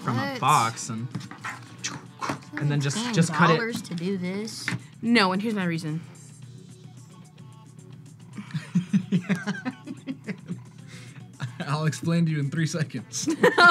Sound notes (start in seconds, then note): 8.4 laughs